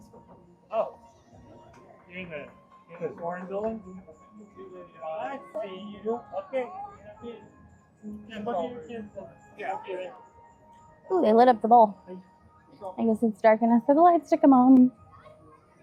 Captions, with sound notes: (people chattering) Ooh, they lit up the bowl.